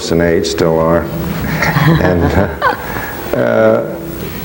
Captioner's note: laughing